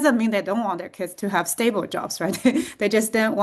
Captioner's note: chuckles